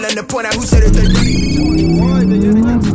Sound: engine rumbling; engine rumbling continues

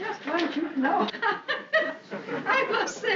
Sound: laughing

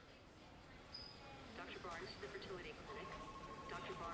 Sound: PA Speaker

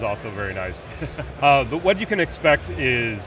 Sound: laughing

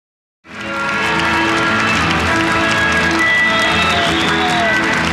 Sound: audience applauding

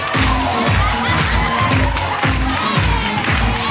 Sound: audience claps in time with music; audience cheers

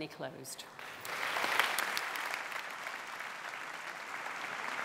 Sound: clapping

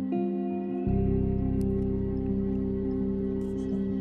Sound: blinker clicking; eerie music

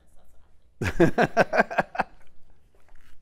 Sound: laugh

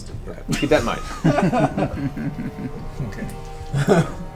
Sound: all laugh

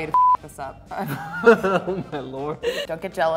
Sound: laughing

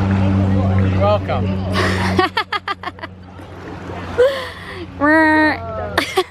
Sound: laughs

